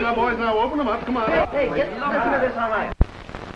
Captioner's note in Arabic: ثرثرة